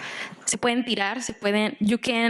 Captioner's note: speaking Spanish